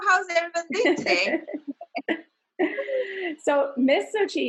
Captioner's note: laughs